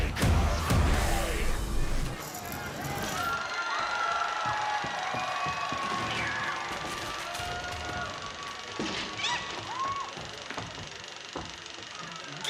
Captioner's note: cheers and applause